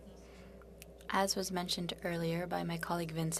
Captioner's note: speaking French